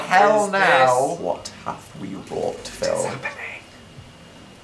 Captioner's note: quietly